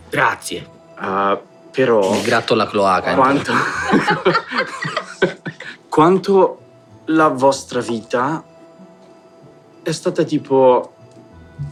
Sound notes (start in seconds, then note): 3.2 laughs